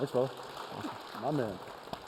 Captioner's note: applause